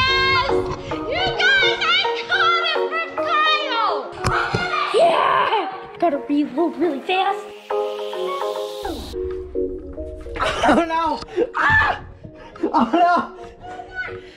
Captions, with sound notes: Yes! You guys, I got hit from Kyle! - Yeah! Gotta reload really fast. - (laughs) Oh no! Ah! Oh no!